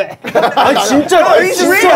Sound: in Korean

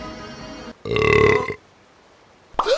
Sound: Airrack burps; Airrack gasps

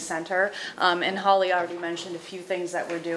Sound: none

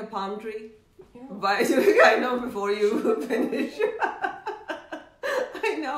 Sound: laughing

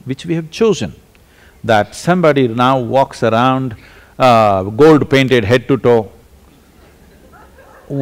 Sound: few laugh

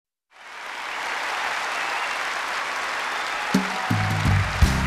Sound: cheering

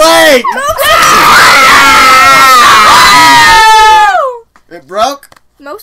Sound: long screams

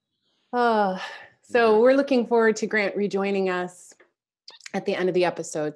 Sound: sighs

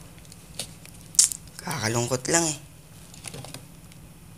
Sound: clicks tongue

